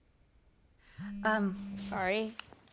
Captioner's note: phone vibrating